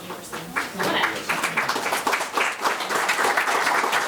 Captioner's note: members clapping